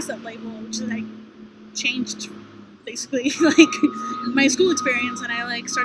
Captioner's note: laughter